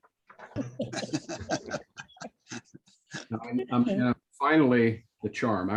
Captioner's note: laughter